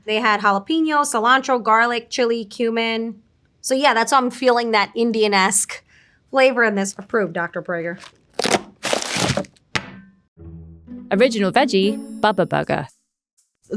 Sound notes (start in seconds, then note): 7.9 packaging rustling; 8.0 packaging rasping; 9.7 patty thudding